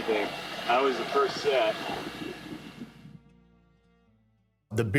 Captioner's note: wind blowing